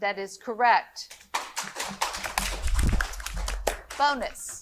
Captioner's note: audience applauding